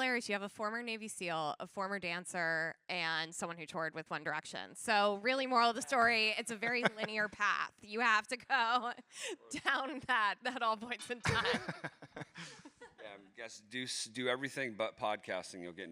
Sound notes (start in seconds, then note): 11.0 both laughs